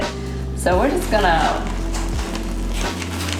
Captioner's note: pours